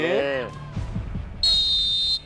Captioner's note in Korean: 호루라기 소리